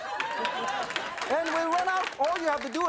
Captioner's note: audience clapping